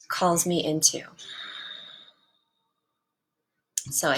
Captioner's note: grounding exhale